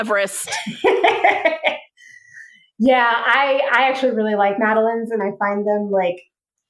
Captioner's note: laughs